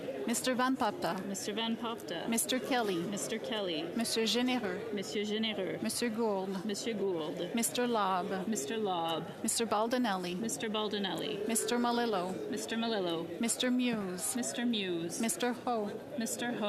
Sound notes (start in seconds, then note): 4.3 calling of recorded vote